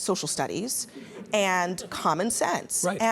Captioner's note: audience laughs